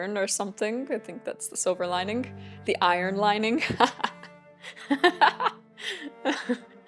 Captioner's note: laughs